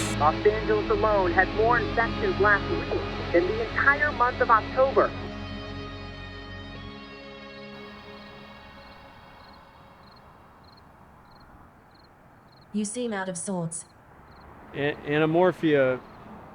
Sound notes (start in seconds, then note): 7.7 music fades; 10.3 crickets chirping